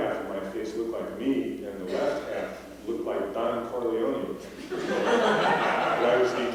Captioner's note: laughter